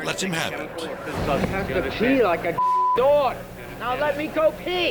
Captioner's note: beep